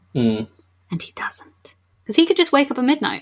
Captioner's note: whispers